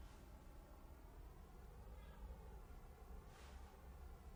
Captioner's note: none